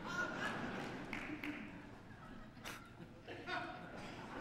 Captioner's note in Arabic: ضحك